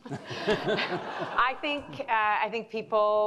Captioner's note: crowd laughing